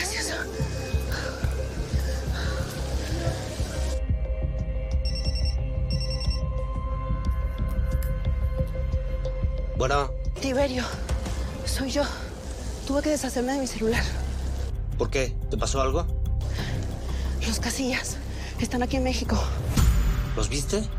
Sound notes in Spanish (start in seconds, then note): 5.0 Suena el celular